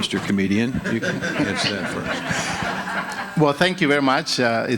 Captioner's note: audience laughing